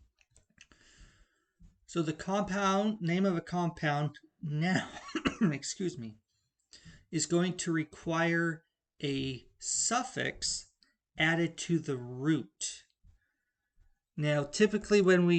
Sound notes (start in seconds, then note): 4.8 coughs